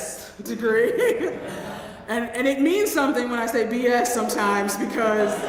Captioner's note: laugh; laugh